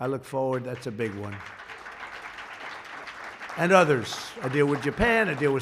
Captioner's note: applause